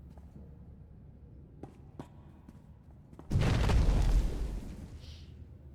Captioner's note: exploding